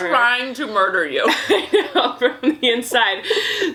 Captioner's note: laughs